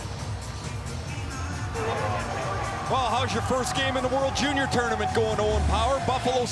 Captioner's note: horn